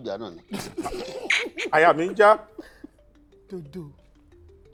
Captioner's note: everyone laughs